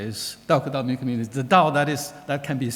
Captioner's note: speaking foreign language